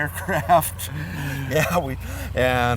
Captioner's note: laughing